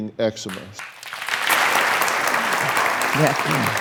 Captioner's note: crowd applauds